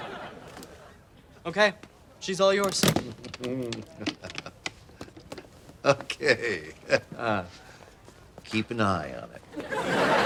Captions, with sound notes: - Okay, she's all yours. - Okay. (chuckles) Keep an eye on him.